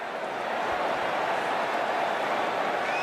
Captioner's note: crowd cheering